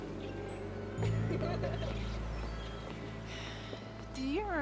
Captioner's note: girls laughing